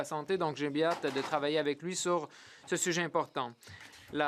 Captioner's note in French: voix de l'interprète